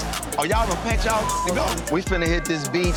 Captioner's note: beep